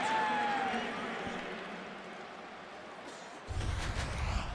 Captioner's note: pa announcement